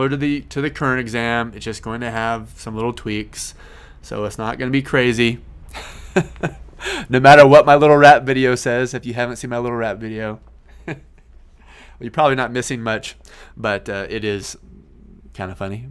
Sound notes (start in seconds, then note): 5.7 laughs